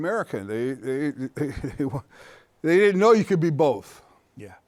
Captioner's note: chuckles